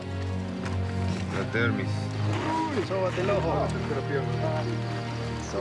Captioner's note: Spanish language